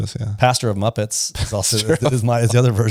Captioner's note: laughs